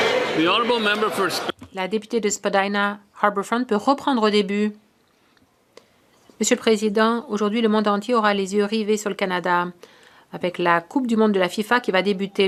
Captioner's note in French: voix de l'interprète